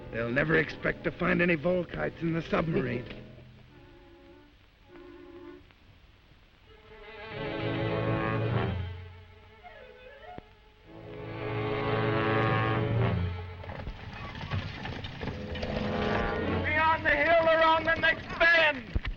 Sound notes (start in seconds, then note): 4.0 tense music continues; 13.3 hooves thudding